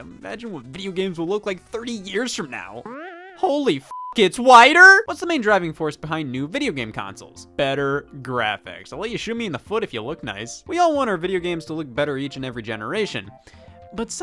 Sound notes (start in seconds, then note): 3.8 beep; 3.8 video game beeps